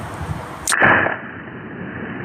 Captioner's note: trigger release clicks in slow motion